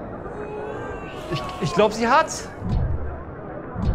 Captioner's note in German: Buhrufe